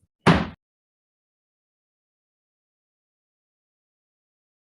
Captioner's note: gavel bangs